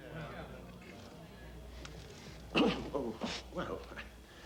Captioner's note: crowd murmuring